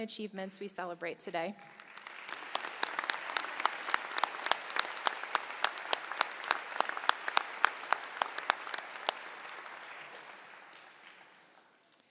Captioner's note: applause